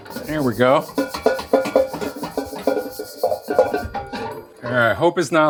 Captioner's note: wok clunking